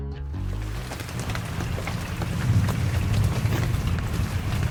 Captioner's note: rain pattering